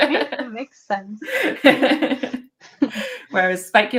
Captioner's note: laughing